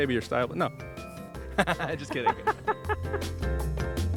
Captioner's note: laughing